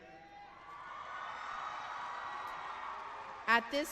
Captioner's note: cheering